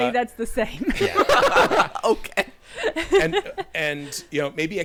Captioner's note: everyone laughing